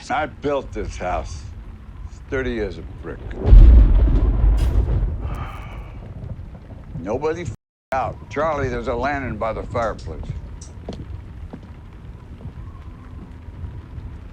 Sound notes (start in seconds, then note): 2.2 thunderclap; 3.6 sighs